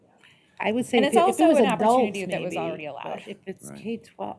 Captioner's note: indistinct chatter